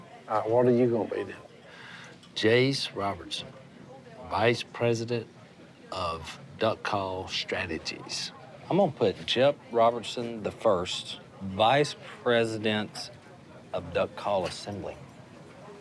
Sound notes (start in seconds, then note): none